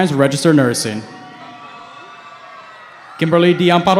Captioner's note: cheering